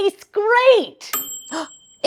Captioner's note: timer chime